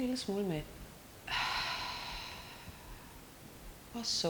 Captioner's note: exhaling